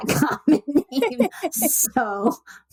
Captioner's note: laughter